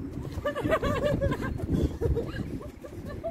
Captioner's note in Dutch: Gegiechel